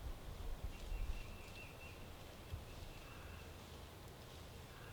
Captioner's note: grass rustling